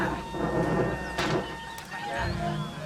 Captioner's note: people murmuring; fire wooshing